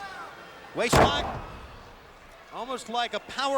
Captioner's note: Liger thuds